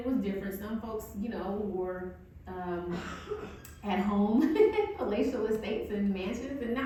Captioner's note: laughs